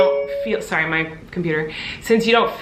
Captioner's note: chime ringing